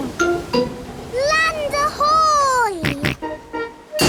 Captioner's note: snorts